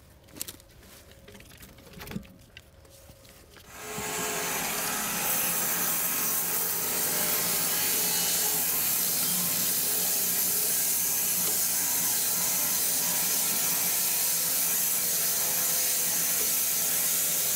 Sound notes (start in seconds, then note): 3.9 saw blade humming